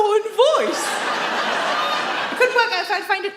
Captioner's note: audience laughs